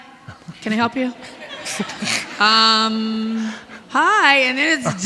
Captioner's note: audience laughing